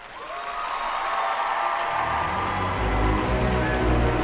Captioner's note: applause